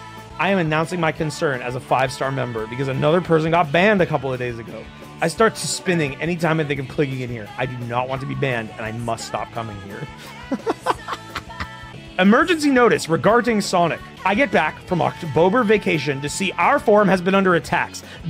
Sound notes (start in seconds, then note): 10.0 laughs